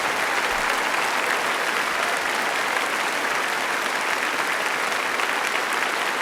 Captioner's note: applause